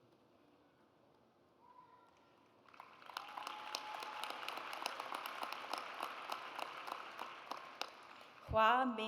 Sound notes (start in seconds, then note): 2.6 audience applauds